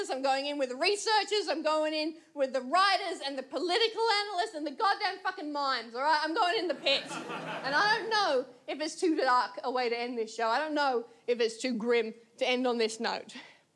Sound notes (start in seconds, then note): 6.7 audience laughs